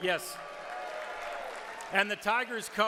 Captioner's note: audience cheers